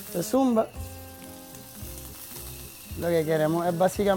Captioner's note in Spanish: chisporroteo